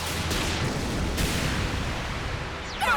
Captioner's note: blasts